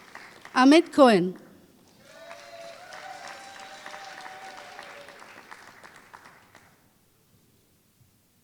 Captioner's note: applause